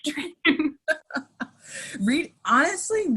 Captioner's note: laughing